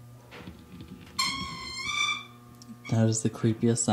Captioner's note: squeak